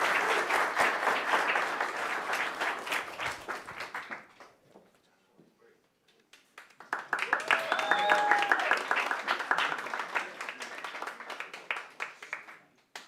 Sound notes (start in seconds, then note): 0.0 audience applauds; 6.5 audience members applaud